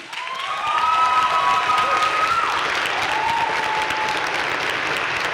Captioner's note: crowd cheering and applauding